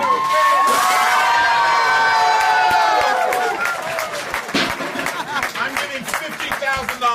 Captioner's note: crowd cheering, applauding